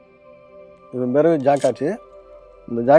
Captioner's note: in Tamil